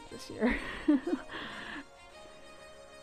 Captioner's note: laugh